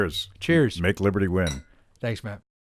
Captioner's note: glasses clink